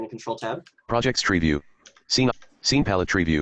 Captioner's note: computer Voice